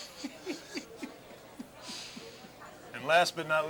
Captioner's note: laughing